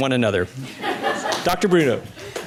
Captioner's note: laughter